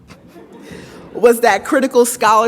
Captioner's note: audience laughs